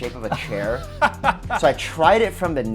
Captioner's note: laughs